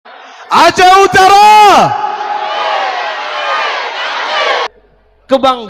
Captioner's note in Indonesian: bersorak